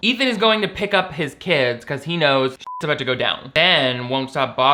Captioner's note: beep